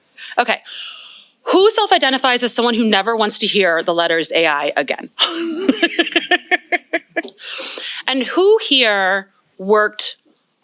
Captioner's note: laughs